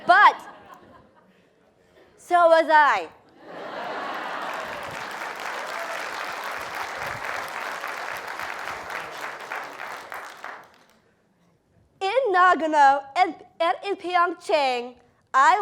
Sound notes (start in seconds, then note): 4.0 applause